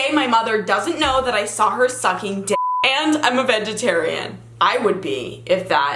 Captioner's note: beep